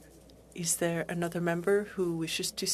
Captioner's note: speaking French